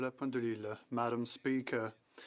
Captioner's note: speaking French